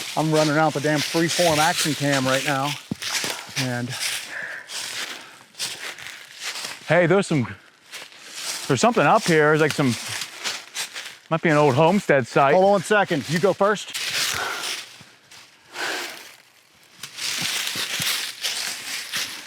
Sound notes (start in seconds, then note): 14.0 all panting